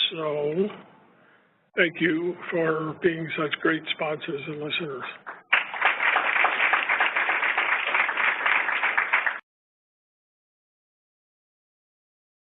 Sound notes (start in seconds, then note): 7.3 clapping